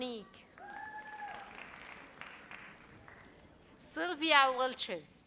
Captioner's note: audience cheers